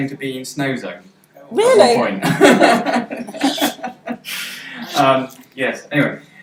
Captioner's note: laughs